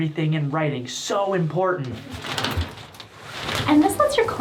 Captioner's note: curtains rustling